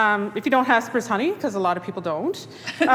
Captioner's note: laughing